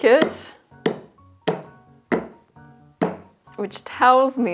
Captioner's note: spoon thuds against frozen ice